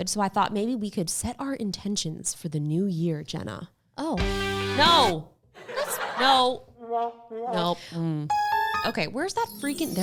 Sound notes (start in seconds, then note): 4.3 upbeat music; 5.6 audience laughs; 8.3 silly trumpet